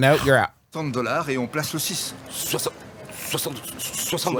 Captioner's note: speaking in French